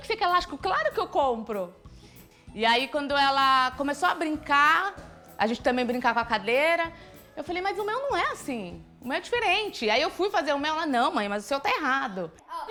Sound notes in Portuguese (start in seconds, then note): none